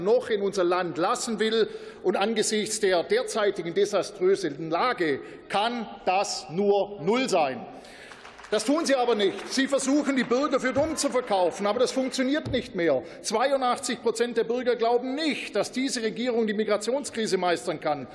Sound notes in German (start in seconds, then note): 7.8 Beifall